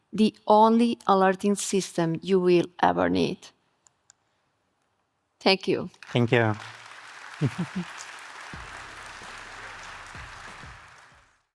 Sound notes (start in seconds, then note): 5.9 attendees clapping